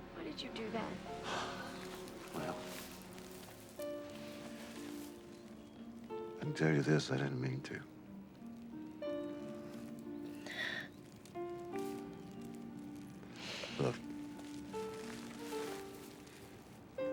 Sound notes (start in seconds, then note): 10.4 sighs